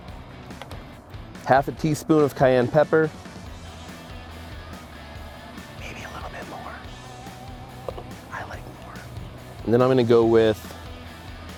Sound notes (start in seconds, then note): 5.6 whispering